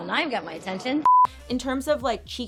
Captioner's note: audio beeping